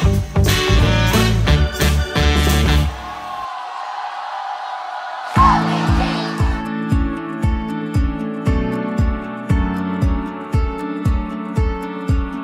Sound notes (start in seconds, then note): 2.6 crowd cheering